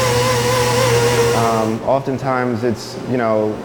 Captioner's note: tool buzzing